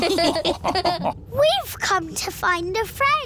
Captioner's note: all laughing